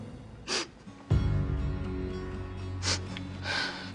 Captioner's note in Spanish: Sollozos